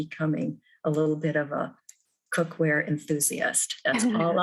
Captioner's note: laughs